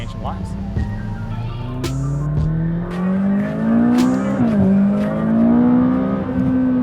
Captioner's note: engine revving